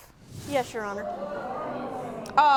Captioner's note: audience murmuring